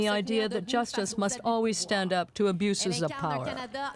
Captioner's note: speaking French